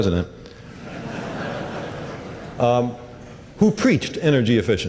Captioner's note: laughter